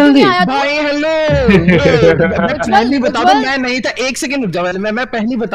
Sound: indistinct laughter

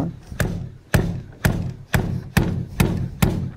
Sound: machine slaps

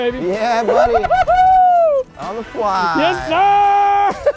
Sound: laughing; laughing

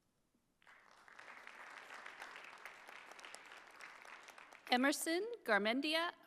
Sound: audience applauding

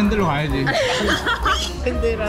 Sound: laughing

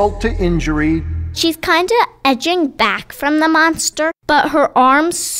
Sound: voiceover

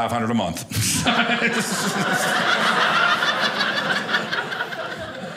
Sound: audience laughing

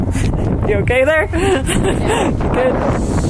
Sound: laughs

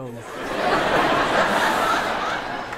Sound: people laughing

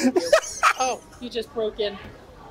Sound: laughs

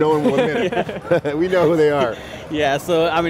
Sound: group laughs

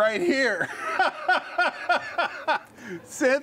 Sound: laughing

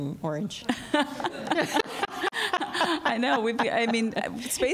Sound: laughter

